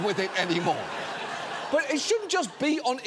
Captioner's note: audience laughing